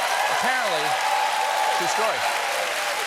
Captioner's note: cheers and applause